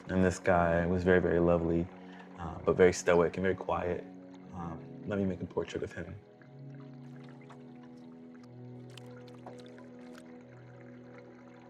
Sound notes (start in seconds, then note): 7.6 water gently splashing